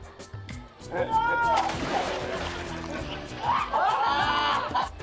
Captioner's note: water splashing